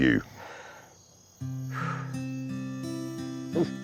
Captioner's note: deep inhale and exhale